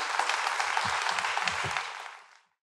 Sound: crowd clapping

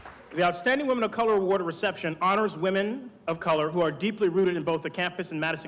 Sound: applause

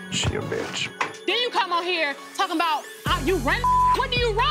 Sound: beep

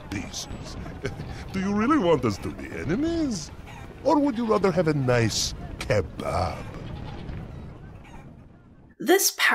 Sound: chuckle

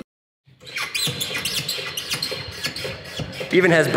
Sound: netball squeaks

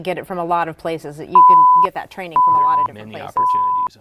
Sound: weather alert beeping

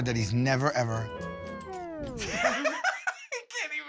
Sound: laughter

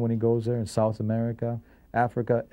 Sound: none

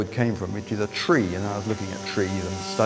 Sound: chainsaw wurring

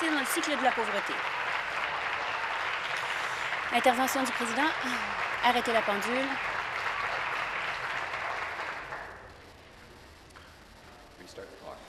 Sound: applause

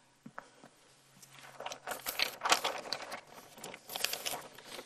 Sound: paper rustling

